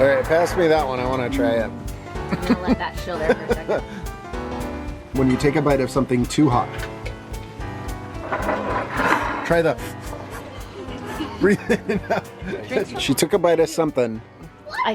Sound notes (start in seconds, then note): 3.2 chuckles; 8.2 puffing; 9.8 chuckles